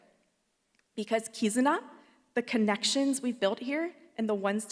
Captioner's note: speaks Japanese